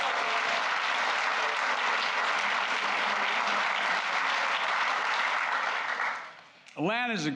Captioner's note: applause